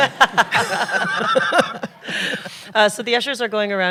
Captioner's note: laughter